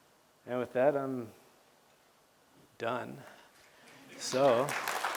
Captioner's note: applause